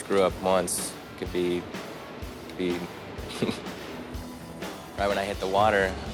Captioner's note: laughs